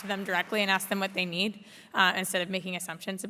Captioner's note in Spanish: Aplausos